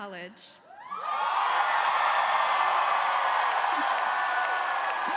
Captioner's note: crowd cheering